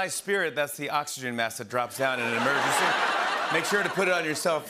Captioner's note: laughter